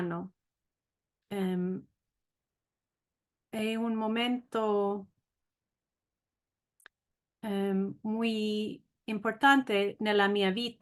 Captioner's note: said in Spanish